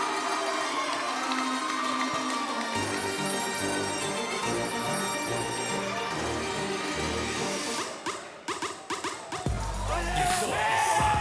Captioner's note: cheers & applause